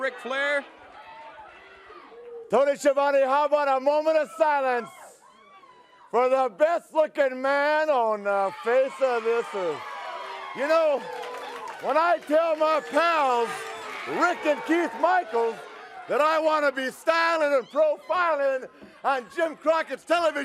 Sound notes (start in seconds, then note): 11.8 crowd cheering